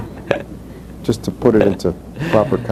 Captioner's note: laughs; laughter